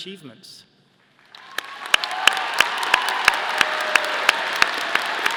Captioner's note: audience applauding